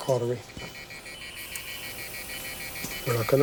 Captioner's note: alarm sounding